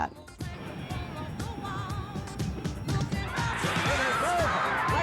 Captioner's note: crowd noise, cheers, music